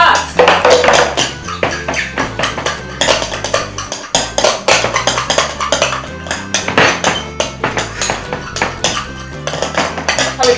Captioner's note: fast stirring noises